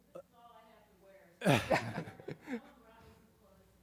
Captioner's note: laughter